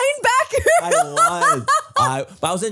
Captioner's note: laughs